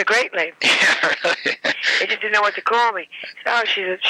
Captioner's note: laughing